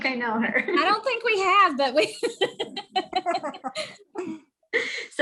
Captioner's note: laughing